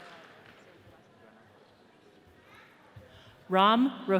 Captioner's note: people chattering